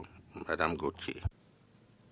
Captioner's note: speaking French